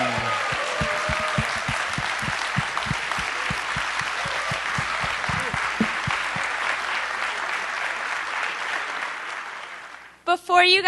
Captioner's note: applause